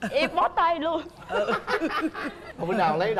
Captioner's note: laughing